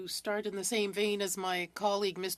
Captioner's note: speaking French